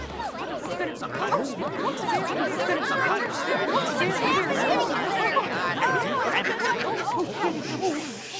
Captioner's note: excited chatter